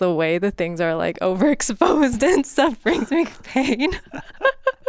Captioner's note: laughs